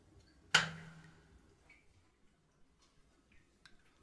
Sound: light clicks

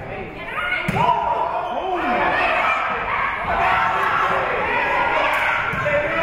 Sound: spectators shouting encouragements

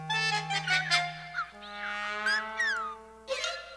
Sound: chirping

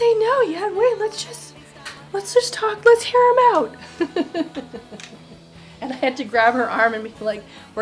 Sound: laughs

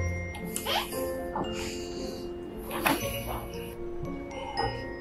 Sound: door creaking

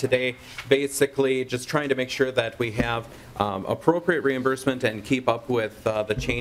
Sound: gavel

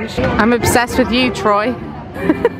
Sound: laughing

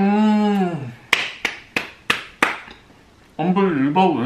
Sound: automatic applause

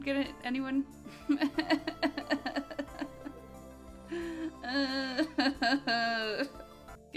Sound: fake crying

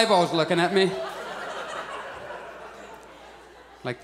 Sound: audience laughs

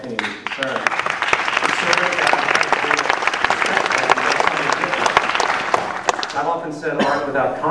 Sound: applause

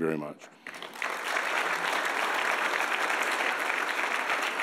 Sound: audience applauds

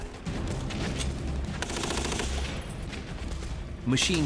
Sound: gunshots

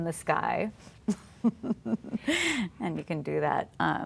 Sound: chuckling

